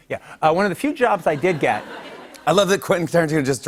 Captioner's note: laughter